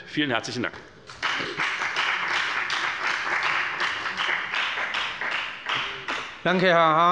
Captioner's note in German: Beifall bei der FDP